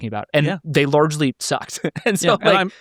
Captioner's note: laughing